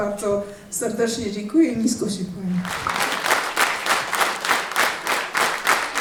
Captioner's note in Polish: oklaski